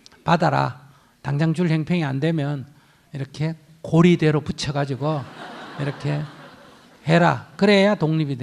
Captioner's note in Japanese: 聴衆 笑う